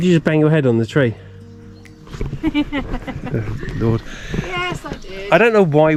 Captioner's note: laughs